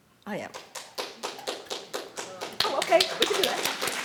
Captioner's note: clapping